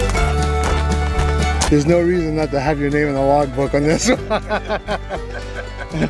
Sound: chuckles

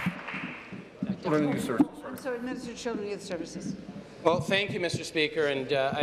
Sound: applause

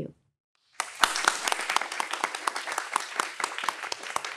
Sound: audience applauds

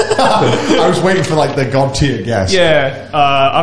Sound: laughs

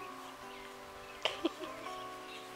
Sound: laughing

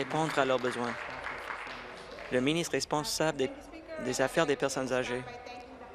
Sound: applause

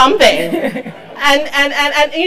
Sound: laugh

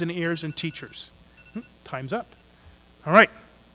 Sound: phone beeps

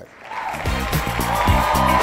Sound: crowd cheers; upbeat music

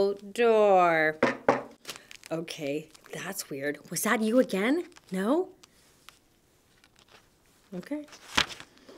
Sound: knock knock!

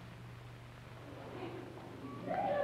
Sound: footsteps, indiscriminate chatter

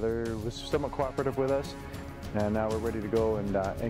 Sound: adventurous music; voiceover

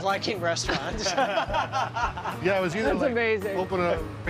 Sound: laughter

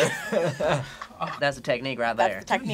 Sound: laughs

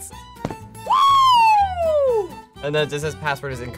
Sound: screams

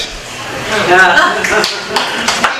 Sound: applause

